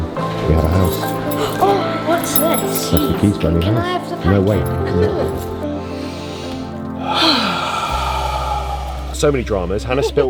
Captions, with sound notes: We have a house. Oh, what's that? Can I have some coffee? No, wait. No. [Sigh] So many dramas. Hannah spilt